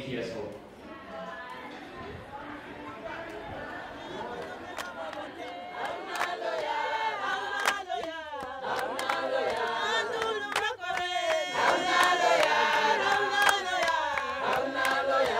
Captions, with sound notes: of hope on question one. And I think this boy, maybe he has hope. (kids talking) (clapping and singing)